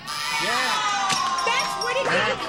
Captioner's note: buzzer